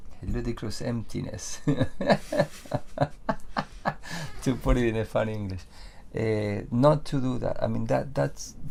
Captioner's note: laughs